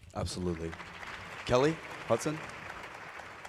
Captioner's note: applause